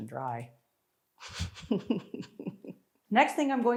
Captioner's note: laughing